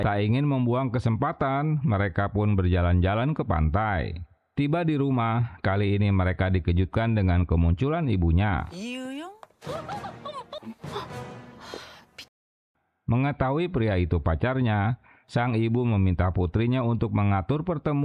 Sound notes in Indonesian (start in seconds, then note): 9.6 menangis